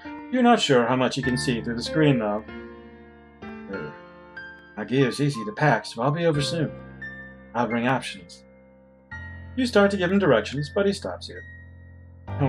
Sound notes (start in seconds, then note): none